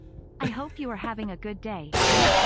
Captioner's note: laughs